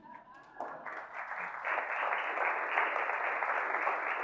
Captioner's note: audience applauding